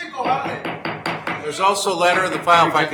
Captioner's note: gavel banging